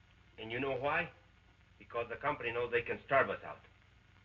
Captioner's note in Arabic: none